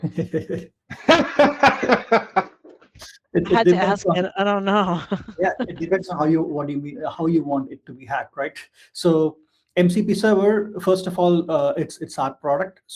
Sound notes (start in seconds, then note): 0.9 chuckles; 0.9 laughing; 5.0 chuckles